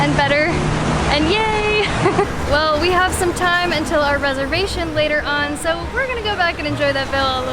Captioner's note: laughs